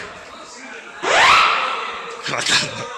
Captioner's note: siren